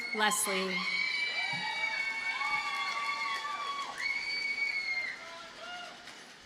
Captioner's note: audience cheers and applauds